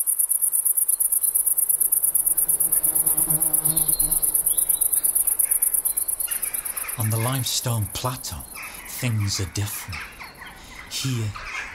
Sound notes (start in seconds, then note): 1.5 A bumble bee flies very close to the microphone; 5.2 Jackdaws calling